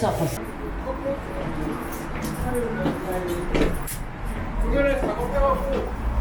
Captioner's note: sound of going down the stairs